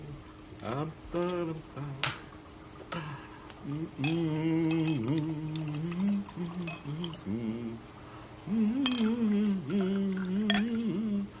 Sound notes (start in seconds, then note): 4.4 pouring; 8.4 humming